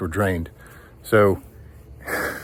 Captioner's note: laughs